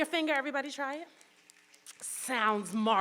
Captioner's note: audience snapping